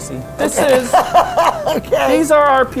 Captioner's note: laughing